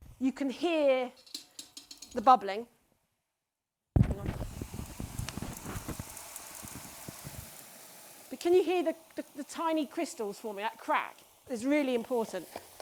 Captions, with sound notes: You can hear the bubbling. Hang on. (ice cream hissing) But can you hear the tiny crystals forming? That crack is really important.